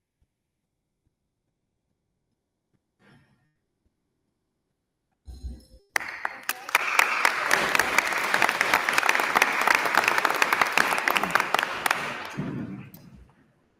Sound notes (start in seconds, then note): 5.9 attendees applauding